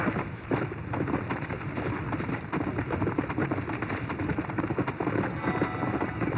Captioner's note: sounds of trotting horse; sounds of running horse; mexico music from the original game